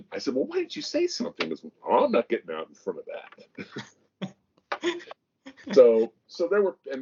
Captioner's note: both laugh